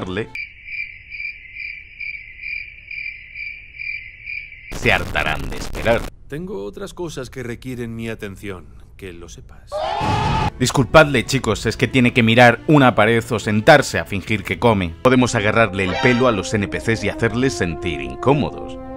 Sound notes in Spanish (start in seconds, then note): 10.0 Explosión